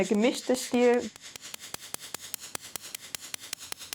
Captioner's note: fast, pointed hammering